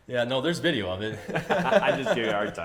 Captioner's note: laughs